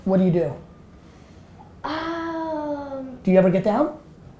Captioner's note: sigh